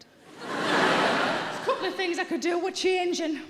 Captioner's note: audience laughing